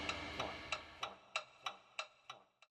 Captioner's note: ticking